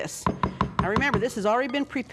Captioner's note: tapping